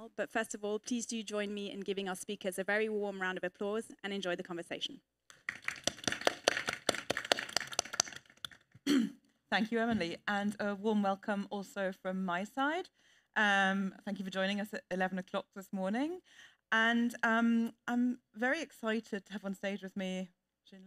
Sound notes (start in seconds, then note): 5.4 audience and panel applaud